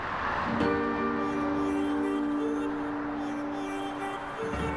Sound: traffic moving; bright music

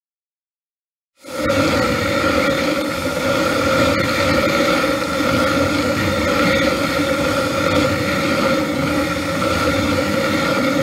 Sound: sound of spinning

